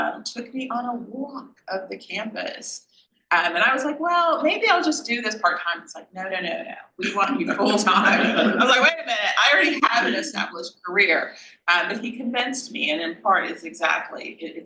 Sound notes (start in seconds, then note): 7.2 panel laughs